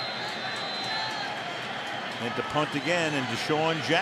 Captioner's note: whistle